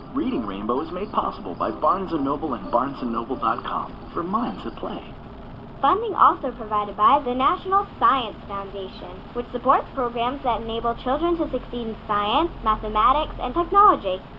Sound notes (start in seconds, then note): none